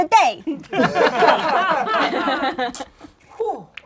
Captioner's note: laughing